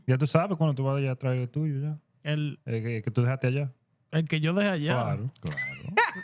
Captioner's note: laughter; speaking Spanish